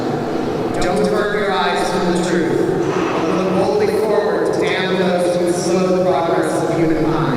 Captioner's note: more bangs